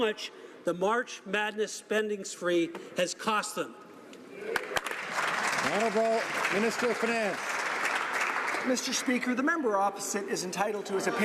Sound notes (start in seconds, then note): 8.2 some Applause